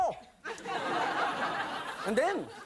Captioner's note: audience laughing